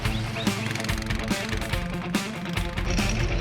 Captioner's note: whistling; upbeat music